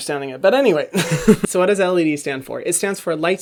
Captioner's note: laughs